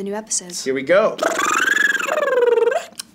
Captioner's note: trilling; both clicking